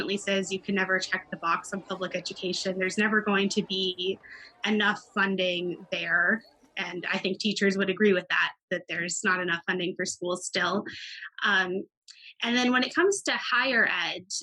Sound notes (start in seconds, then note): 0.0 children chattering